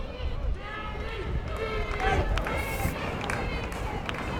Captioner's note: fans chanting